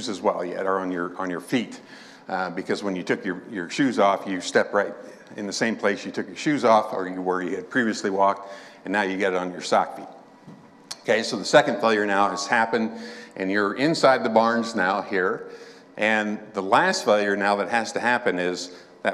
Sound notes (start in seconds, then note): none